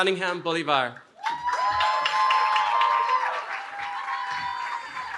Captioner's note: cheering